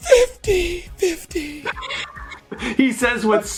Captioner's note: laughing